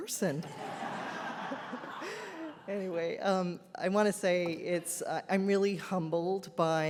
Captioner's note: audience laughs